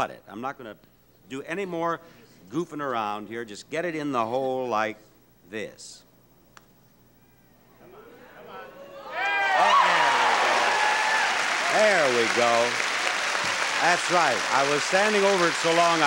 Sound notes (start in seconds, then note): 8.6 audience cheering